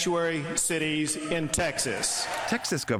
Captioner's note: cheering and applause